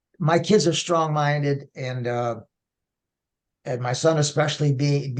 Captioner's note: none